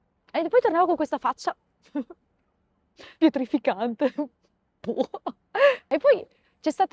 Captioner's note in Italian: risate